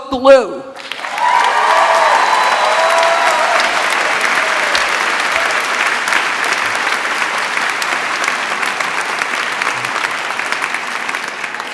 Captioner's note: applause